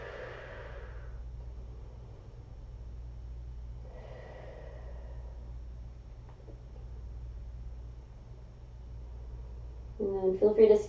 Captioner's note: inhaling; exhaling; inhaling